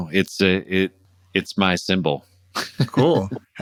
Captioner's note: laughter